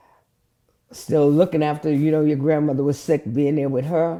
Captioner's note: none